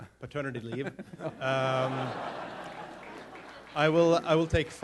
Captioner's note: laughter